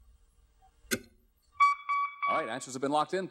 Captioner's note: beeping